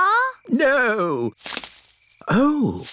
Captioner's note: rustling